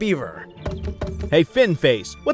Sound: wood thudding

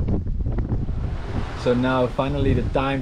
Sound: water splashing

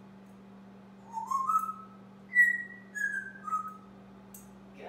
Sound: whistling

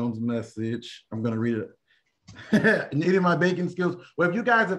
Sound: laughter

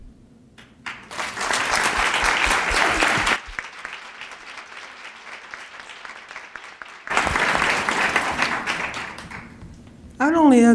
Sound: applause

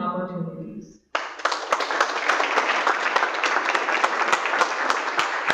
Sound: audience applauds

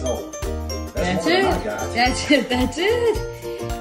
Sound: laughs

